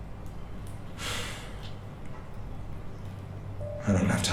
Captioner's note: labored sigh